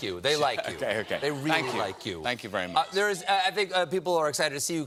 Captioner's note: audience shouting